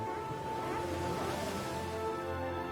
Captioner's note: waves crashing